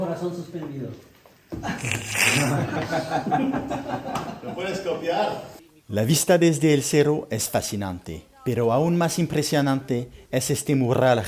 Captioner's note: laughter